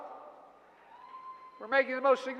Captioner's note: applause